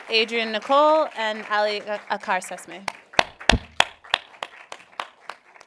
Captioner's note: applauding